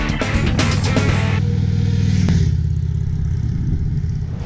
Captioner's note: bike purring